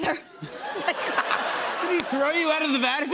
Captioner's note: laughter